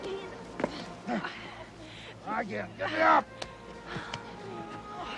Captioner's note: grunting